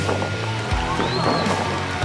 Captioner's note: crowd cheering